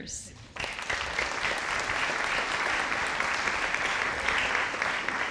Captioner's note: audience applauding